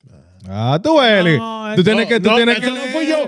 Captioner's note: speaking In Foreign Language